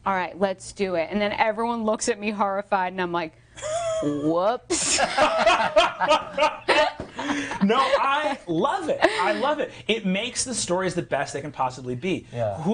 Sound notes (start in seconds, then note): 4.8 all laughing; 4.8 laughing